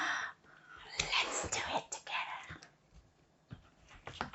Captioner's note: whispers